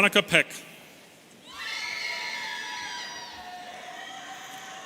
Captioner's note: audience cheering